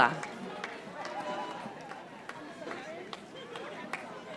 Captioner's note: audience applauding